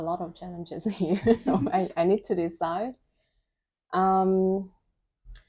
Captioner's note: laugh